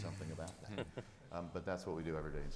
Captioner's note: laughing